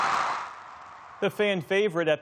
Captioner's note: cheering